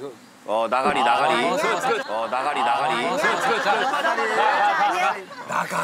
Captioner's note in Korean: 꿀꺽